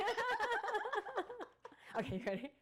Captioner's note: laughing